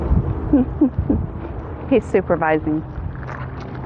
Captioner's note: laugh